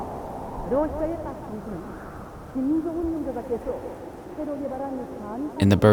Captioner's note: wind whistling; conversational din